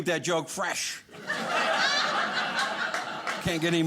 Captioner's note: audience laughing